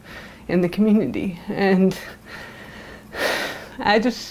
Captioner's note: deep sigh